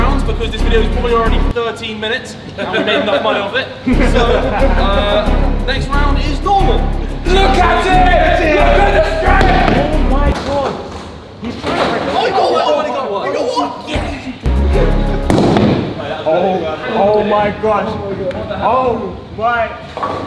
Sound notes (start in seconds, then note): 4.0 lads laughing; 6.6 lads shouting